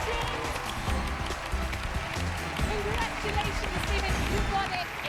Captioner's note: cheers and applause